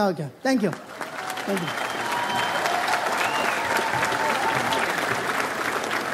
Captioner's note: audience applauds